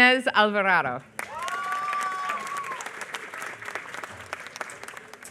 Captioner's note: applause